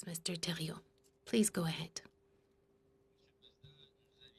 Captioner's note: speaking in French